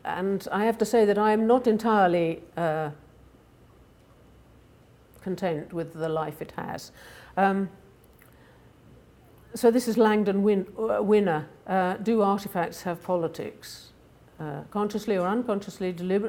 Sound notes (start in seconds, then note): none